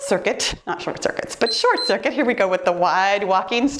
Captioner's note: timer beeps